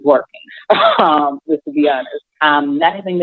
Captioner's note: chuckles